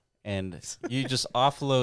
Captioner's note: laughing